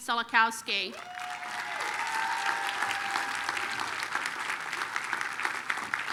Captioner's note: applause, cheering